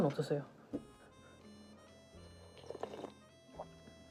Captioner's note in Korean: 후루룩